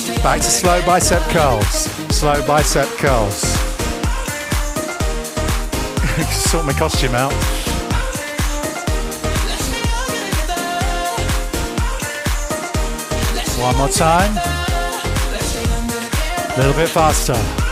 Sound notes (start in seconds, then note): 7.6 breathing heavily